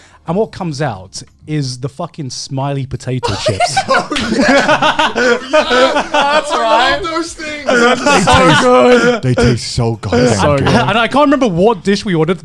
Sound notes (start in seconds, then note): 3.2 men laugh